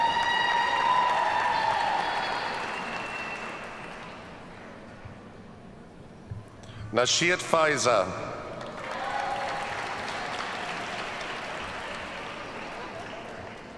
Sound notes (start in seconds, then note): 0.0 audience cheers and applauds; 8.5 audience applauds